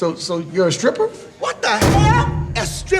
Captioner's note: slams table